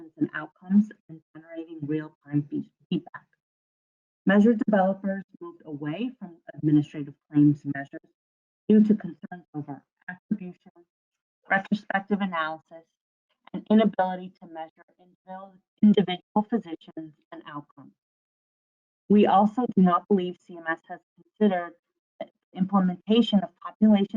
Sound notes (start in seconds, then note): 16.0 audio drops